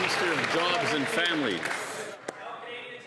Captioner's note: some Applause